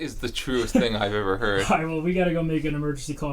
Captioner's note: laughs